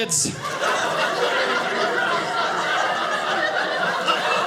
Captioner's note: audience laughing